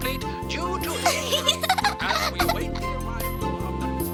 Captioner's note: laughs; cheerful music